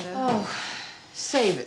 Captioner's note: Wanda sighs in frustration